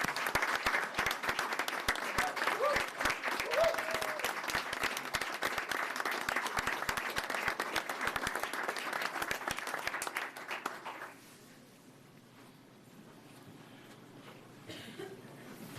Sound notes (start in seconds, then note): 0.0 applause